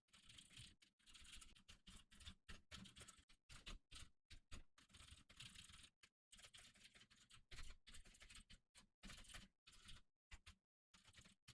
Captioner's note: typing sounds